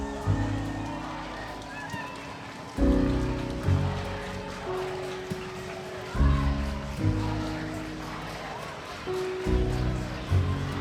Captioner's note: slow jazz on piano; protestors chanting indistinctly